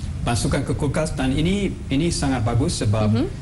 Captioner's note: non-english speech